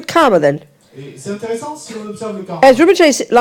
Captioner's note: audience member speaks in French